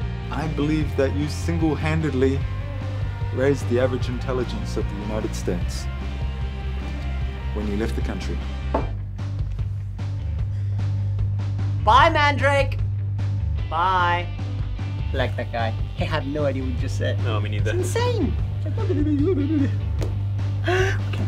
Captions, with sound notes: I believe that you single-handedly raised the average intelligence of the United States... When you left the country. Bye, Mandrake! Bye! I like that guy. I have no idea what he just said. No, me neither. It's insane! [MUMBLING]